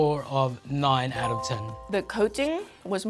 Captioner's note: bell dings